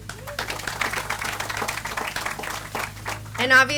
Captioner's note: audience applauds